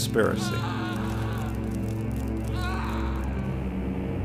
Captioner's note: yells